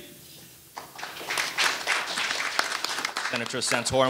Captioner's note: audience applauding